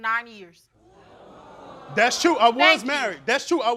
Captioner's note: crowd oohing